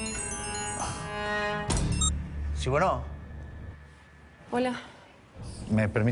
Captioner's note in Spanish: Suena un celular